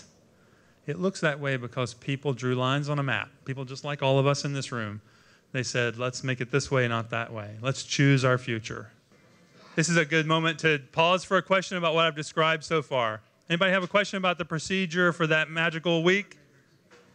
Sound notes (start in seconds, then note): none